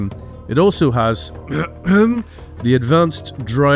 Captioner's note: clears throat